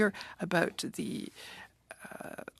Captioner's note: speaking French